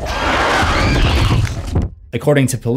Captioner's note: scream